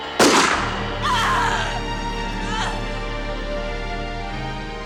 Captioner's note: gun firing; woman groaning